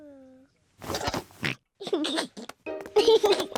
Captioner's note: oinks and giggles